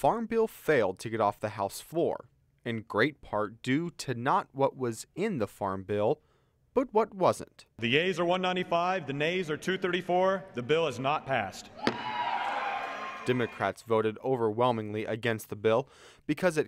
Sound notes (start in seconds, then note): 11.6 audience cheers